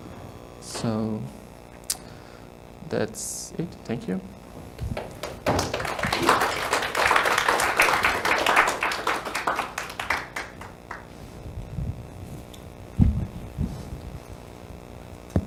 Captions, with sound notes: So, that's it, thank you. (applause)